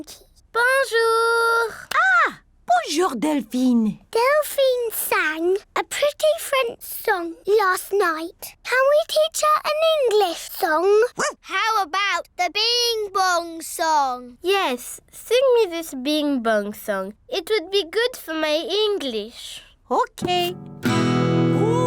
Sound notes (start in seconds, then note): 11.2 barks; 20.2 strums guitar